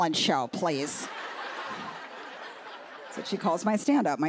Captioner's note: laughter